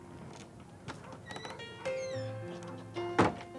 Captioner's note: dog barking